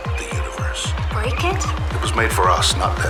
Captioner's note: voiceover